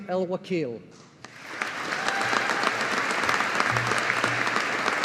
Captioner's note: audience applauding